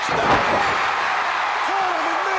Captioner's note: crowd cheering